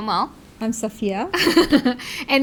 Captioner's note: laugh